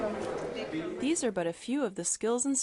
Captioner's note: voiceover